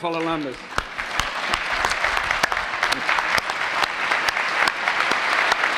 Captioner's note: applause